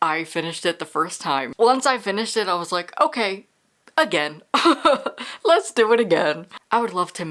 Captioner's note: laughs